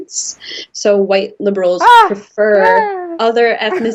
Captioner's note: shrieking